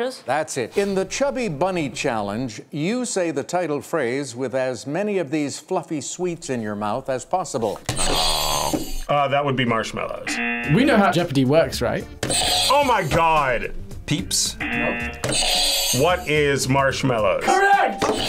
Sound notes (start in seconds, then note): 7.7 buzzer rings; 10.2 buzzer; 14.6 buzzer rings